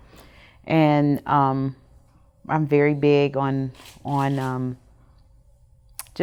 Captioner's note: camera clicking